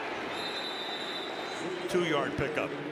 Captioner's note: whistle